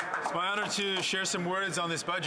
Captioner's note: speaking french